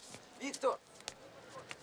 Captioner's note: speaking russian